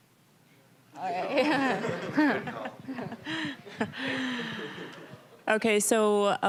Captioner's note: all laughing